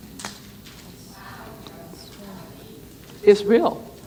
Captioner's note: speaking faintly